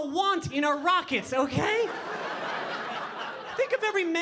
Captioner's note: audience laughing